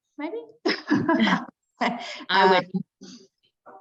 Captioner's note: everyone chuckling